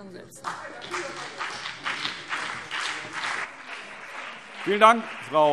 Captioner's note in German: Beifall